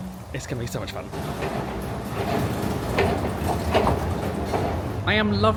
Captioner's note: escalator thuds